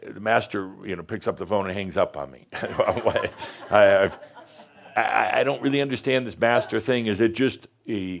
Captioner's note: laughter